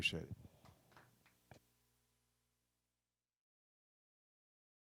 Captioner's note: audience applauds